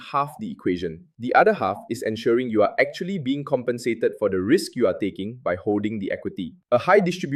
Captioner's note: thoughtful